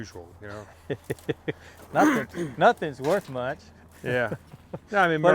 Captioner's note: laughs